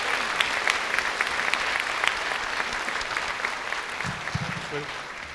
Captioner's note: applause